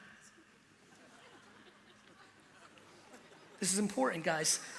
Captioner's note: light laughter